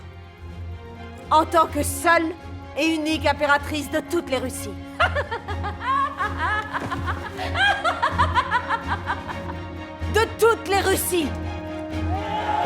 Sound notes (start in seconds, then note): 5.0 Elisabeth giggling; 12.0 soldiers cheering; 12.4 soldiers chanting in Russian